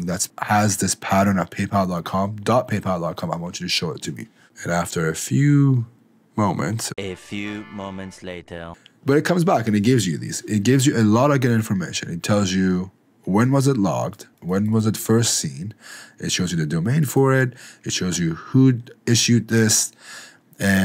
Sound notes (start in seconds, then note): 7.0 automated Voice